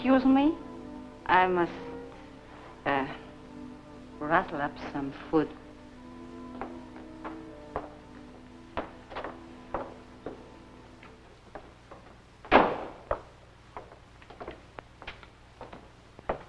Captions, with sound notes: I must rattle up some food. [footsteps] [door shuts]